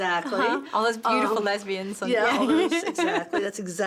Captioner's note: laughs